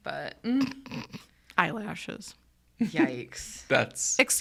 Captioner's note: snickers